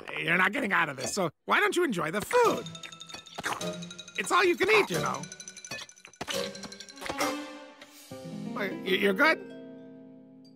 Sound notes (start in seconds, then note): 3.2 hormph